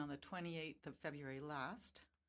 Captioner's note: speaking French